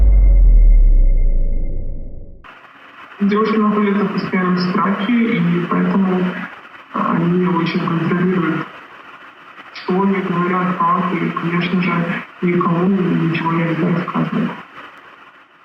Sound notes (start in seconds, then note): 3.5 interviewee speaking in foreign language